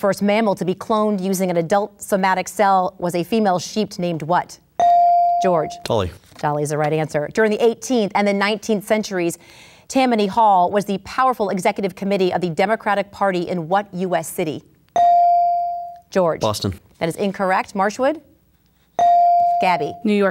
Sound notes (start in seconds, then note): 4.8 ding; 15.0 ding; 19.0 ding